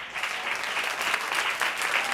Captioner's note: applause